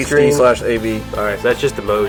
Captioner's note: voiceover